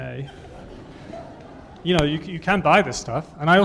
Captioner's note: laughter